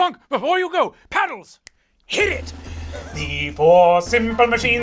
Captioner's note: snaps